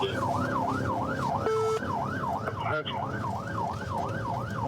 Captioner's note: sirens wailing